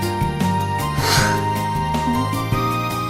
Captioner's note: sighed